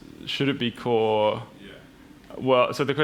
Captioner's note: voiceover